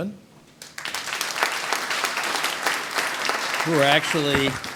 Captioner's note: audience applauds